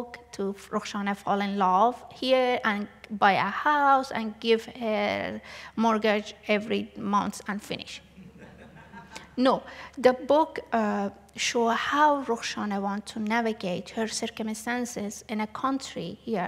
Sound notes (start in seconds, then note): 8.1 laughter